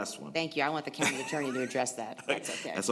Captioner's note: laughter